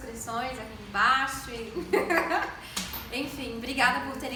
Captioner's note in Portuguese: risos